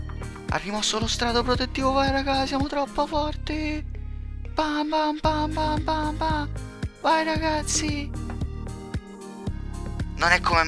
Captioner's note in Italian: suoni di mazzate